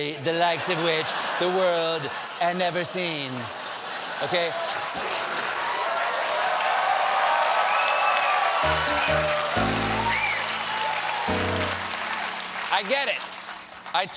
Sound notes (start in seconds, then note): 6.1 cheers and applause; 6.1 laughter; 8.6 piano riff